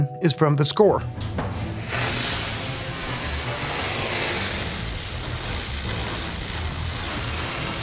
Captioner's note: dramatic music; torch cracking